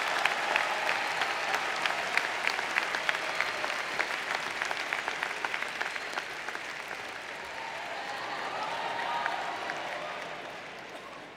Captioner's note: applause